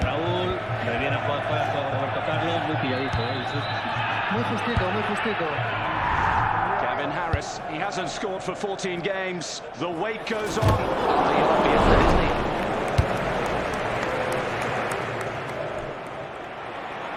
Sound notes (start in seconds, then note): 12.1 tepuk tangan ringan